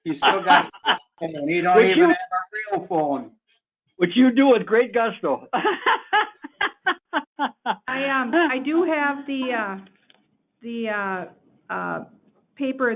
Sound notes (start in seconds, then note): 5.6 laughing